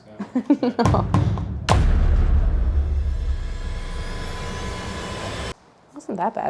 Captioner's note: laughing